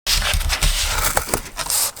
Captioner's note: cutting cardboard; moving cardboard